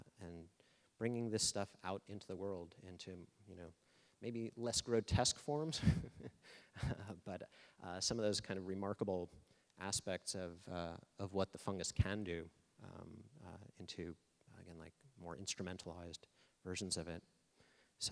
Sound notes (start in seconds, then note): 5.7 laughing